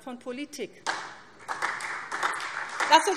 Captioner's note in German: Beifall SPD